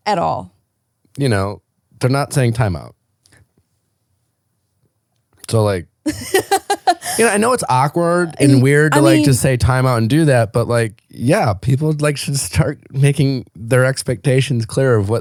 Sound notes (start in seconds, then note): 6.0 laughing